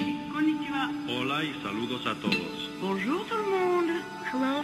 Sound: speakers speaks in foreign language

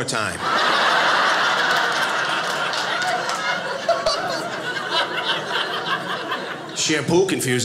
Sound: audience laughing

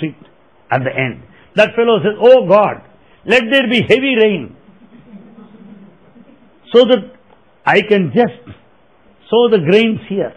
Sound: laughter

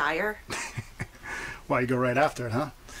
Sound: Henry laughs

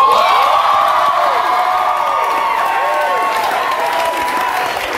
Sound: audience cheers loudly

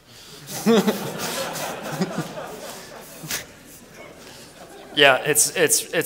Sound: laughter

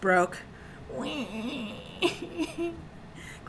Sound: whining

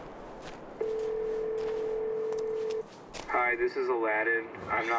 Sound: phone ringing

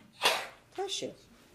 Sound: sneezes

